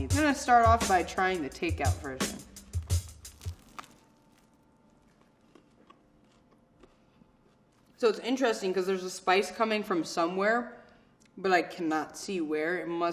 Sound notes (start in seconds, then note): 2.7 crunching